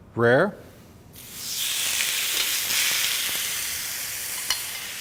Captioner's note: sizzling sounds